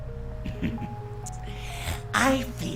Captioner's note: chuckles